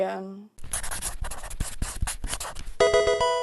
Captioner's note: marker scratching; 8-bit music